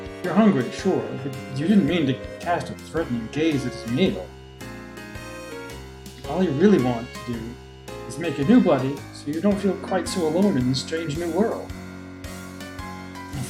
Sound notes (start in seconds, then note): none